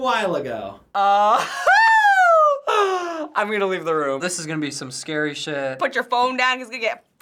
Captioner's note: laughs